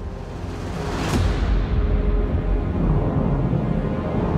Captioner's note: explosion